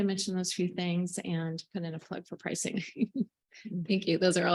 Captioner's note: chuckles